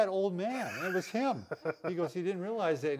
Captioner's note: laughs